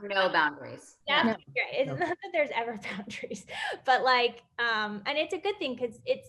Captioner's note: laughs